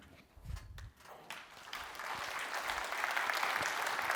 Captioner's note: applause